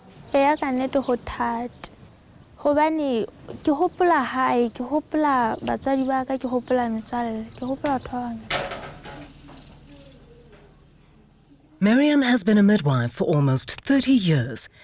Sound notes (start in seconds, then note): 8.9 cricket sounds